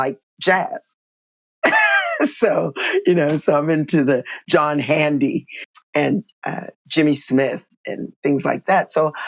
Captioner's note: laughter